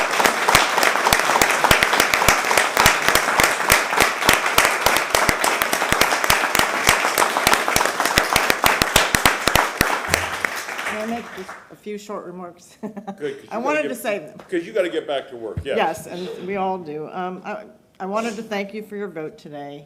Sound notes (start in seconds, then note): 4.9 applause